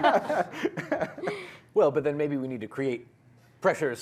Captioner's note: laughter